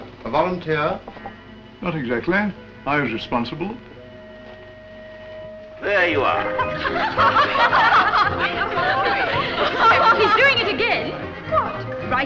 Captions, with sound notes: A volunteer? Not exactly. I was responsible. - There you are. (Women laugh) - He's doing it again. - What?